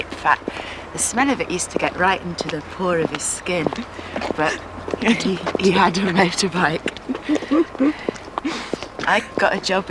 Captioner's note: laughter